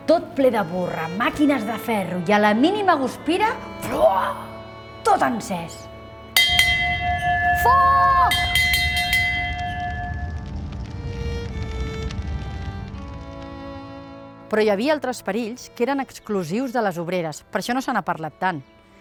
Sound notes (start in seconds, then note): 6.3 bell ringing; 10.6 crackling of fire